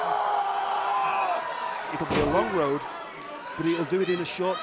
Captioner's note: crowd cheering